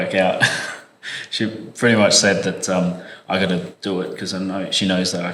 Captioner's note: laugh